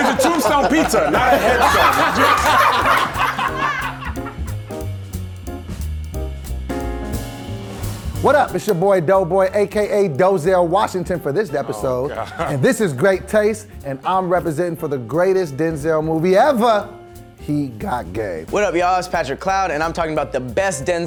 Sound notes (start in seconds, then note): 1.9 all laughing; 3.0 soft jazz music